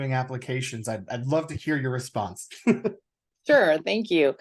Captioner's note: chuckles